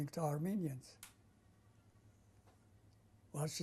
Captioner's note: pauses for 3 seconds